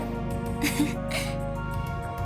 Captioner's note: chuckle